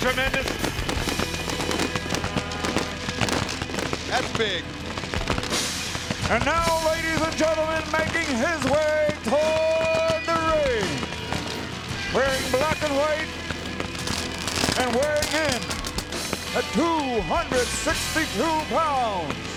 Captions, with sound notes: Is this tremendous? (fireworks cracking) (bright energetic music) That's big. And now, ladies and gentlemen, making his way toward the ring, wearing black and white, and weighing in at 262 pounds.